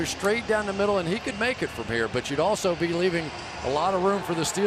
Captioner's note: crowd cheering